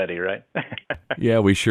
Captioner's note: laughing